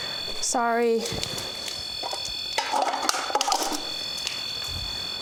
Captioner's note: beeping continues